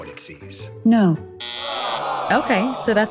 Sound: SOT: buzzer

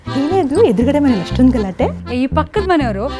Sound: women chatter about neighbours’ quarrel

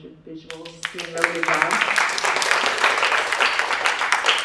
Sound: audience applauding

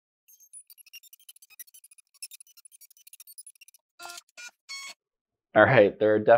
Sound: sounds of Drawing

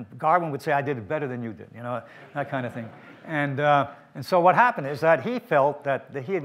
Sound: audience laughter

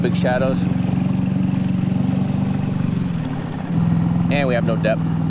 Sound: boat motor humming

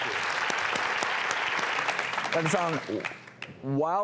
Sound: audience applauds

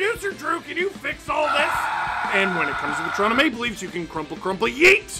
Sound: screaming

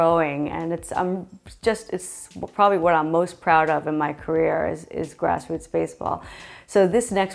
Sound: stammering

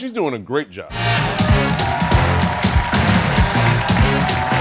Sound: cheers and applause

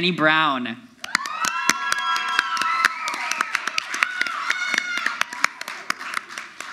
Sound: audience applauds; crowd yells

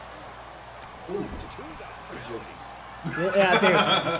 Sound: laugh

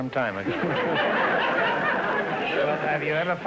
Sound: audience laughter

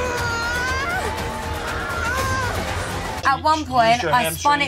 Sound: screaming; suspenseful music

